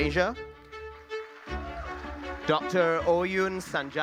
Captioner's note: audience applauding